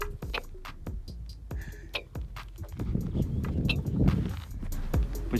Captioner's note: swears